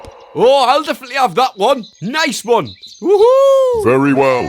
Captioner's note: victory cries